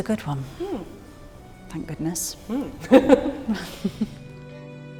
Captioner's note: both laugh